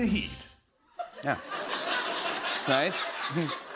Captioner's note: laughter